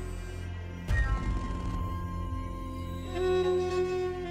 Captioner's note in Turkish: none